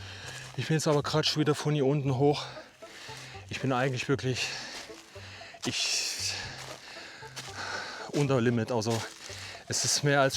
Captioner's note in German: seufzt